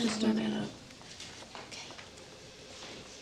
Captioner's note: whispers